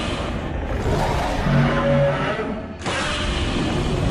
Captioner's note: Godzilla roars; Shin Godzilla roars back